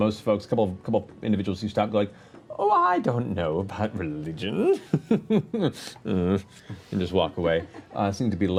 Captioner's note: scoffs